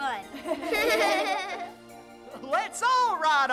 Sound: kids laughing

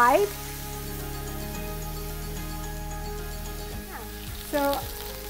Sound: pan sizzles; upbeat music

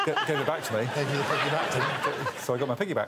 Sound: audience laughing

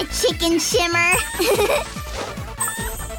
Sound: laughing

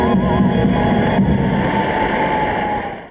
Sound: audience cheers

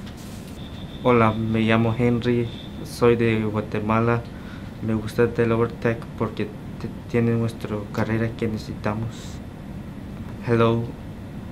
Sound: in Spanish; in English

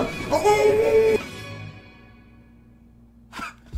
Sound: grunts

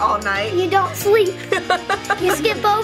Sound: laughs

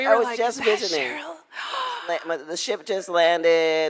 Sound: gasps

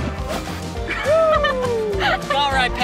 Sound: laughs

